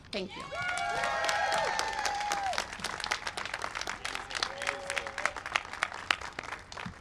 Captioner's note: cheering and applause